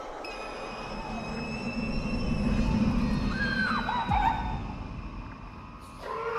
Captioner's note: tense music; woman screaming